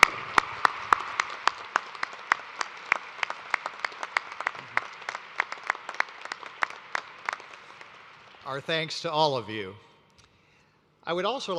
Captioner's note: applause